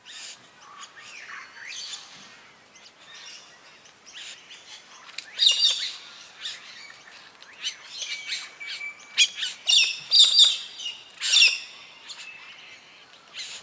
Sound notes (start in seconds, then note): 1.0 birds sounds and chirps